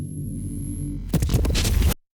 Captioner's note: angry space noises